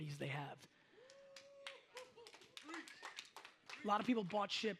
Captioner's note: audience cheers